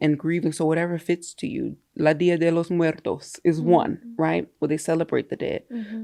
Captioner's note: foreign language